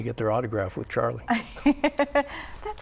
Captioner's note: laughter